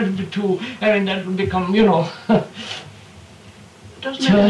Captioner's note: laughs